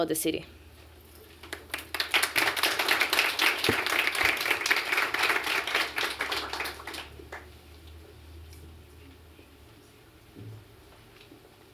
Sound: applause

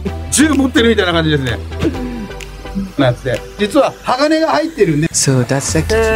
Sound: staff speaks in japanese

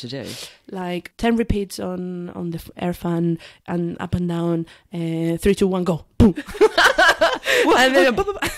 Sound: laughs

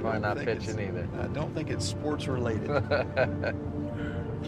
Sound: man 2 laughs

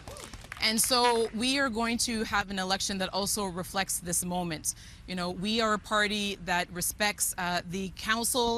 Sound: cheering and Applause

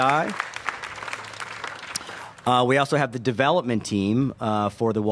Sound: applause

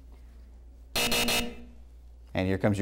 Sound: buzzer

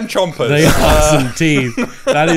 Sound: all laughs

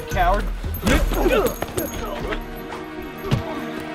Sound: grunting

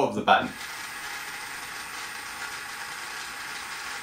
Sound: motor noise

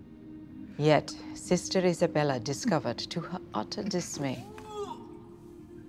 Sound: vomits

